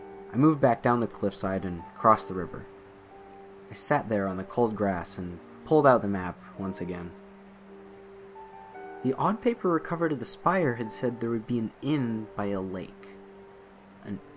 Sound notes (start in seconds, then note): none